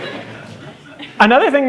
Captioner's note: laughter